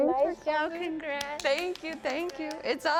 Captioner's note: clapping